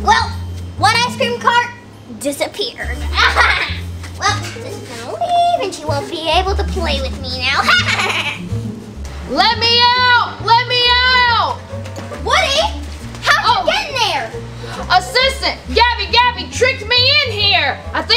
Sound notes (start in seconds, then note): 3.2 Gabby Gabby laughs; 7.6 Gabby Gabby chuckles